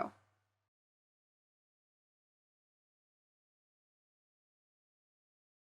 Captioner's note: silence